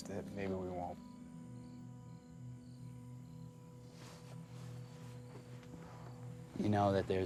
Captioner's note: crickets chirping; gentle music